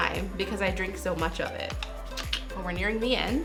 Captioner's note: clicks tongue